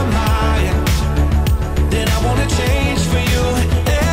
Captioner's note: wind blowing